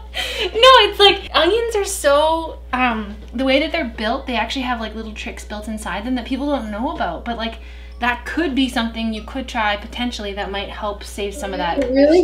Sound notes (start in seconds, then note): none